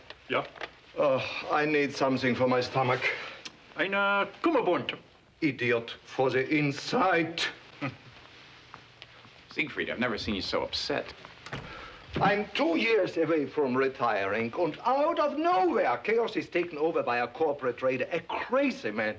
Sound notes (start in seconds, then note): 3.6 speaks foreign language